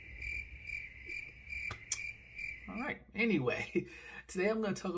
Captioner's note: crickets sound effects